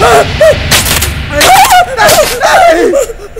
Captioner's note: Electric short sounds